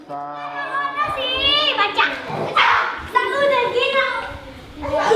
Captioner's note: kids cheering